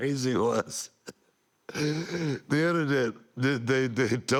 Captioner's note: laugh